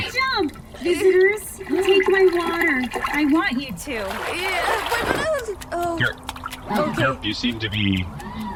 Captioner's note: stutters in opposition; sound of Gerp splashing, turns into wet scampering footsteps